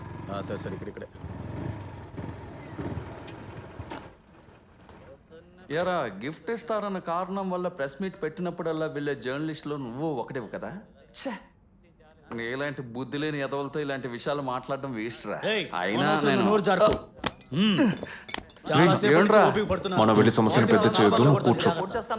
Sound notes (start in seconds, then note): 2.2 motorbike halts